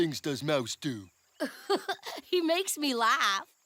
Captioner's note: laughing